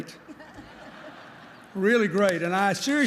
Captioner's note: laughter